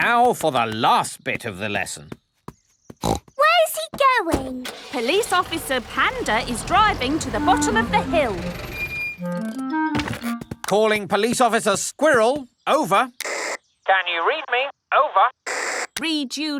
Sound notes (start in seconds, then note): 3.0 snorts; 13.2 walkie-talkie crackles